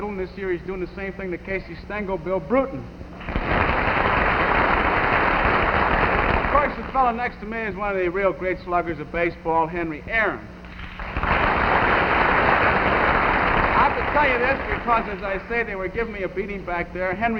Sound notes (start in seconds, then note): 3.1 audience clapping; 10.6 audience clapping